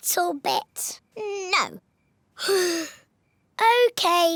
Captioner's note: sighs